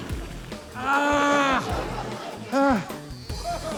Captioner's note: groans loudly, pants